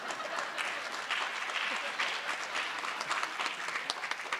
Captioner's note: audience applause